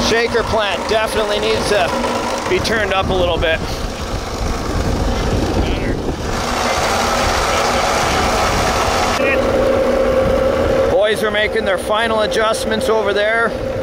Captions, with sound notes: Shaker plant, definitely needs to be turned up a little bit. (motor chugging) Boys are making their final adjustments over there.